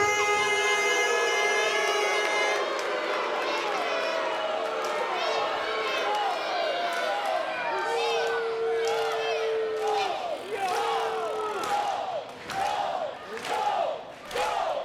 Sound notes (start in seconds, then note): 1.5 crowd booing; 10.5 crowd chanting